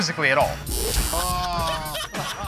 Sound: buzzer

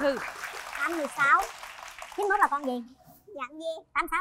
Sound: clap

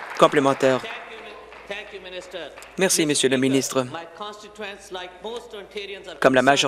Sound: applause

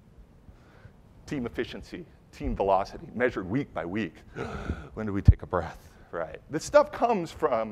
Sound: deep inhale

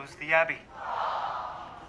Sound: audience track goes Awww

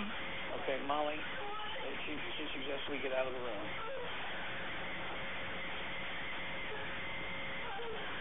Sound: crying

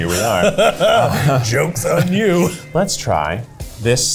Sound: laughs

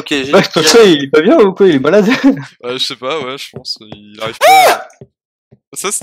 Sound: scream

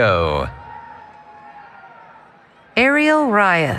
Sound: cheering

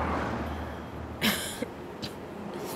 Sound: coughing

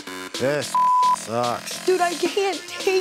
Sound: beep

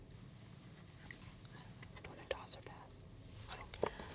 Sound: whispering

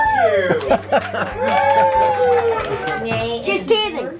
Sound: claps

